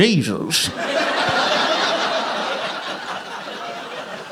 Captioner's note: audience laughing